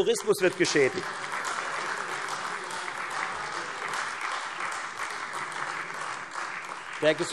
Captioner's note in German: Beifall Freie Demokraten